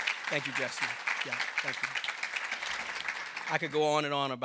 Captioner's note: audience applauding